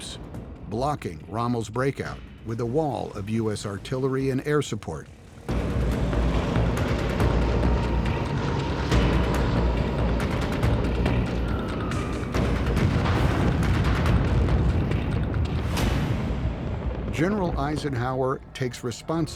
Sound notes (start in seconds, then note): 5.5 airplanes roaring; 11.9 booming